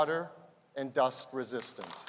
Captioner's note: applause